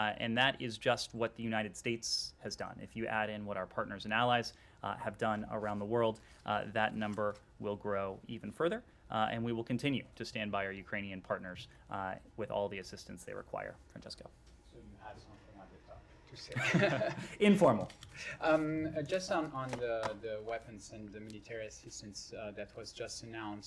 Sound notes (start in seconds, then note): 16.5 laughter